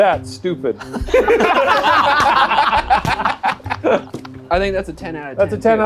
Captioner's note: group laughs